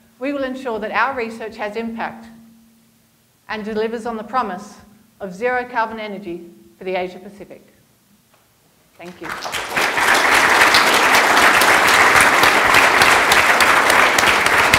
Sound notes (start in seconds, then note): 9.0 applause